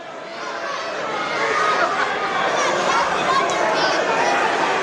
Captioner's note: crowd murmurs